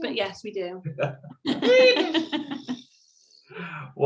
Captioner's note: laugh